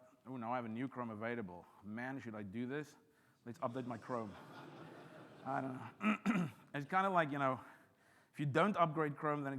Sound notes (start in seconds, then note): 3.9 audience laughs; 5.9 clears throat